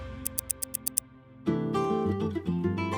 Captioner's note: clock ticking; upbeat music